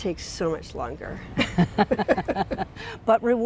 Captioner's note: both laughing